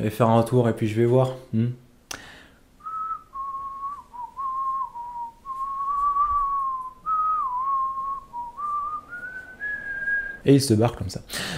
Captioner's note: whistle